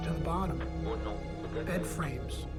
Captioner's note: man speaking in foreign language